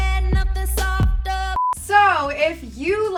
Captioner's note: beep